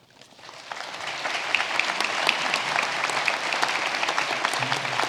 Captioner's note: audience applauding